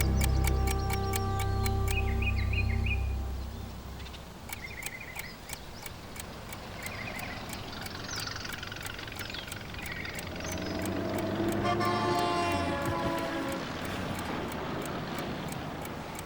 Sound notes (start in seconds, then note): 1.9 ticking stops; 3.9 normal ticking; 7.8 traffic; 11.2 truck horn honks